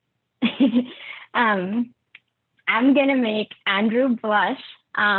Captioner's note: laugh